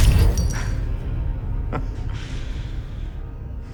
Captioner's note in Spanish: risas